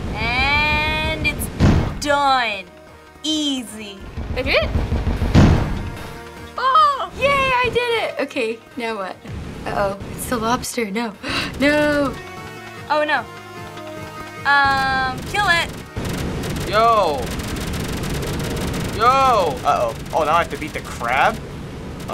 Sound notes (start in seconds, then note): 4.7 thump!; 6.0 excitedly; 11.2 gasps